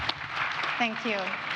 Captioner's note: audience applauds